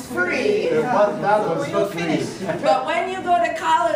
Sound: students talking

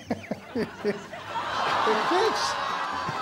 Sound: audience groaning

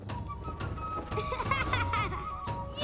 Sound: laughing

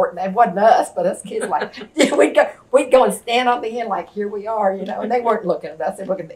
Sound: laughter

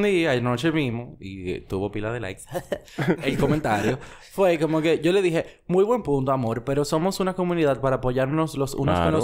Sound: laughs

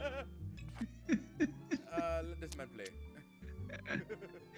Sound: laugh

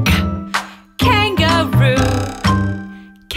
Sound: loud boing

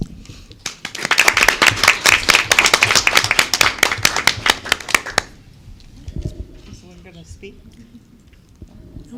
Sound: applause

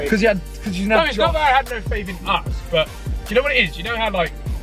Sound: mumBles

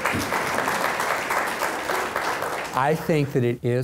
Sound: applause

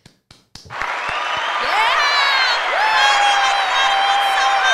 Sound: cheering sound

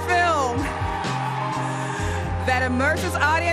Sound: audience cheers

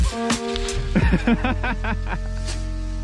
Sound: laughing

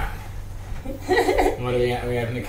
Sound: nervous laugh

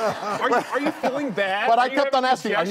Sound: audience laughing

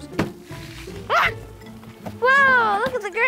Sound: yells

